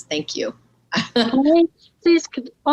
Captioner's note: laughing